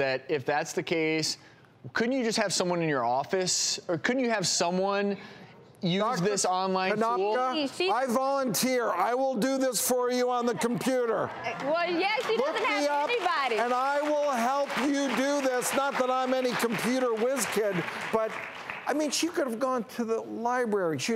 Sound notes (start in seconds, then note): 13.5 audience applause